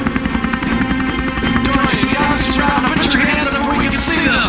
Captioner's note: man on loudspeaker